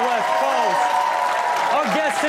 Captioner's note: audience cheers and claps